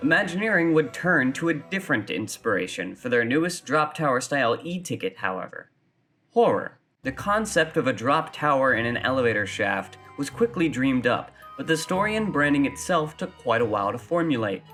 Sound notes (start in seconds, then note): none